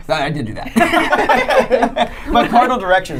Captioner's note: laughing